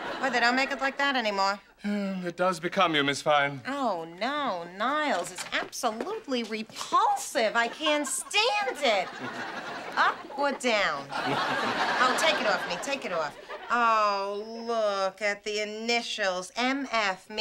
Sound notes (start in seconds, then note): 9.8 chuckles